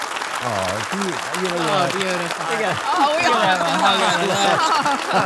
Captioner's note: and audience clap